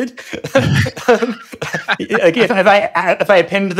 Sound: laughing

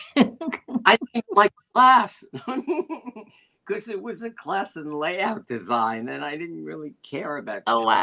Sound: laughter

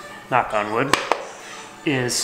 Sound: knocks twice

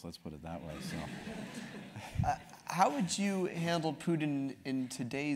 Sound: laugh

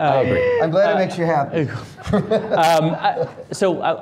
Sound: laughing

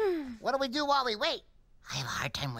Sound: whispering

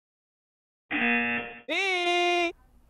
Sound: buzzer rings

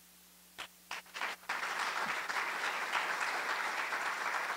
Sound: applause

